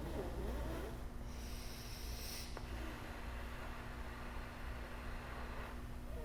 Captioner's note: character breathes gently